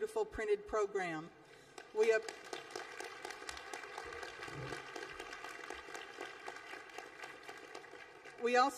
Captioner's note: applause